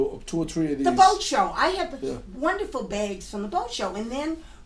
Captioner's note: voiceover